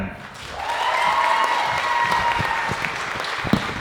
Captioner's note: audience cheering